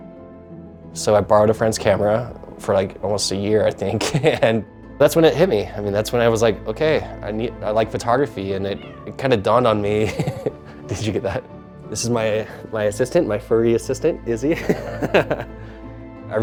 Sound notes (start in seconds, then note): 8.4 meowing; 9.6 laughs; 14.4 laughs